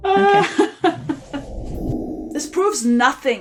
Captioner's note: laughs